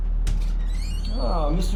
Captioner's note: door squeaking